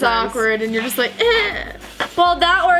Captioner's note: whining